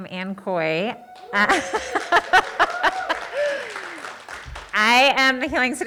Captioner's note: audience cheering